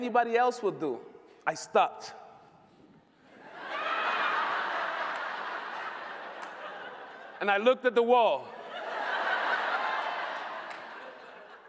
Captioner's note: laughter